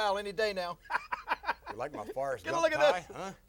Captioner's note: laugh